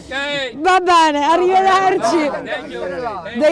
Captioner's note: non-english speech